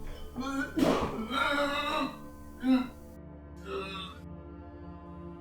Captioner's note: vomiting sounds